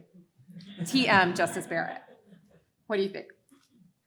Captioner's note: audience laughs